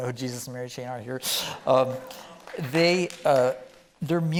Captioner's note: scattered clapping from audience